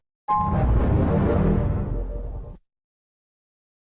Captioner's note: 3D Shadow Windows XP Shutdown Sound